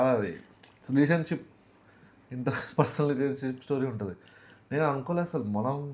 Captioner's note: laughs